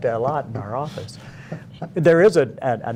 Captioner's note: laughter